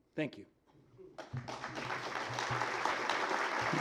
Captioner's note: applause